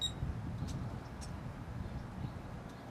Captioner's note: beep